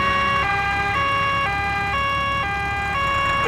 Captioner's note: siren wailing